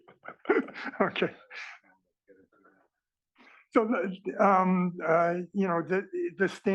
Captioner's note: laugh